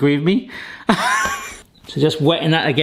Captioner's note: laughing